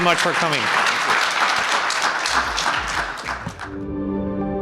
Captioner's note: audience applauding; soft music